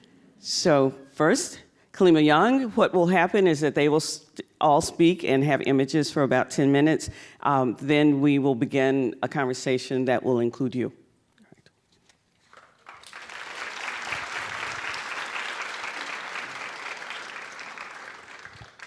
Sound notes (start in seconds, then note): 12.4 applause